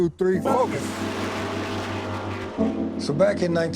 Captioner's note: cars roaring